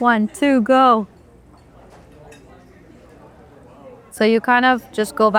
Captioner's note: patron chattering continues